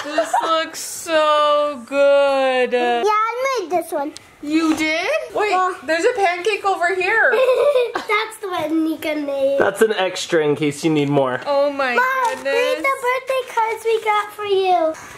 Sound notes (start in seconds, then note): 0.1 laughs; 7.2 laughs